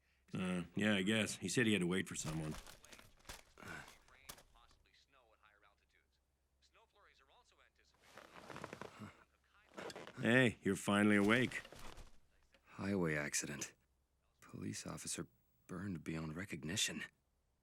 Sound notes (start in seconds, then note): 2.1 newspaper rustling; 2.7 groans